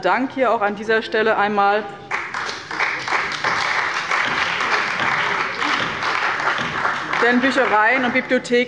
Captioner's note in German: Beifall bei dem BÜNDNIS 90/DIE GRÜNEN und der CDU